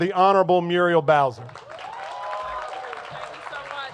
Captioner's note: cheers and applause